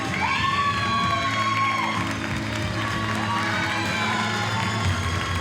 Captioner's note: audience cheers and applauds